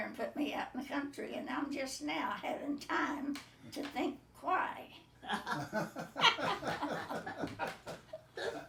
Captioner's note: laughing